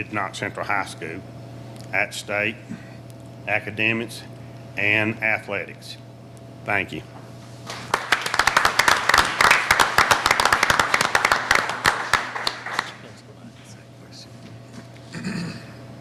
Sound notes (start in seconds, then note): 7.6 applauding; 13.0 faintly speaking